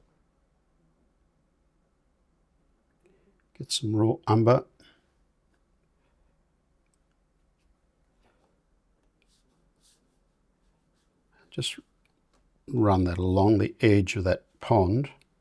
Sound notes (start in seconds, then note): 4.7 silence